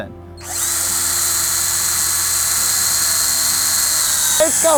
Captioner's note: drilling wood